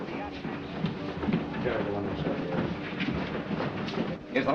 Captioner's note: indistinct chatter